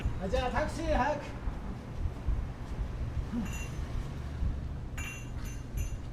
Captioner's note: Toshio speaking in foreign language